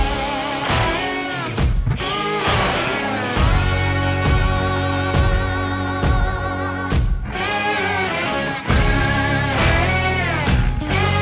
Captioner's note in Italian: Applauso